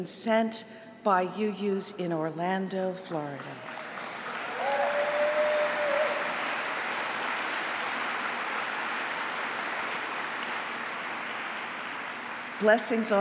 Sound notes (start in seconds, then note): 9.4 applause